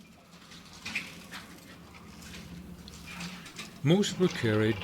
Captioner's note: naval vessel clinking